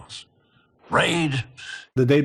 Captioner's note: inhales